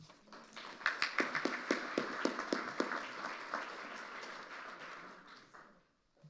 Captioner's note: audience applauding